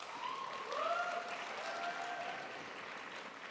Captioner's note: crowd applauds